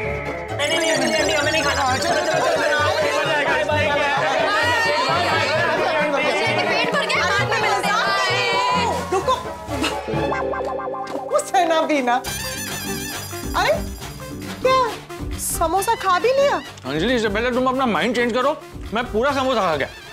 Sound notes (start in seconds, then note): 3.6 indistinct chatter